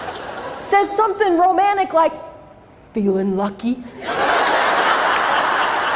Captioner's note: crowd laughs